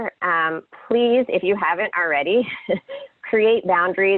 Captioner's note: laughs